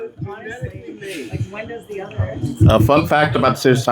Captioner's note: laughing